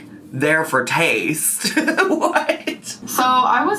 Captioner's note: laughing